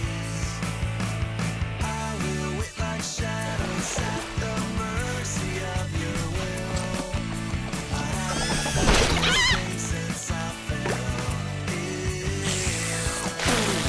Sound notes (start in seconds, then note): 7.9 shrieking; 12.4 slurping